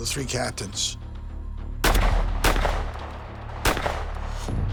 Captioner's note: gunshots echo